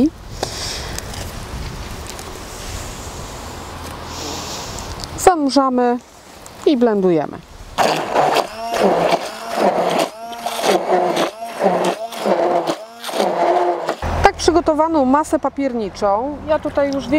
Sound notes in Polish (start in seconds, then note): 7.8 odgłos pracującego blendera